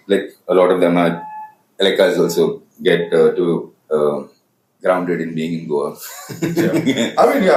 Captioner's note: laughs